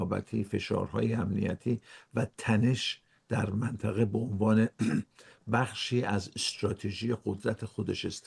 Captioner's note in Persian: گلویش را صاف می‌کند